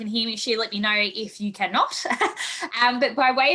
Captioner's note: laughs